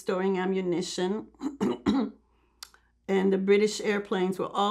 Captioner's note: clears throat